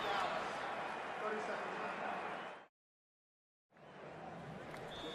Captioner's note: pa announcement